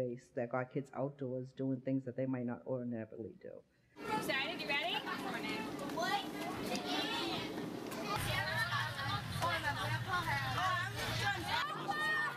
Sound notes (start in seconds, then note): 4.0 lots of kids' voices talking